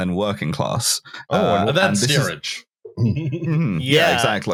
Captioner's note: chuckles